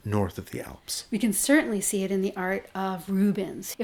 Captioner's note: voiceover